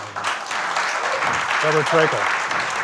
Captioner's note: applause